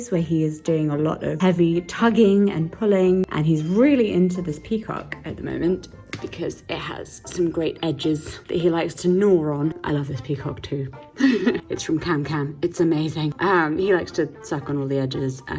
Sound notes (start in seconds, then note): 11.2 giggles